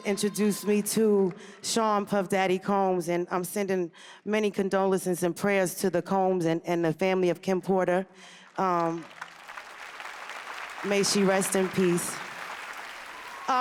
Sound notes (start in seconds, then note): 8.2 applause